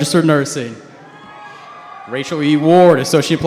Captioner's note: cheers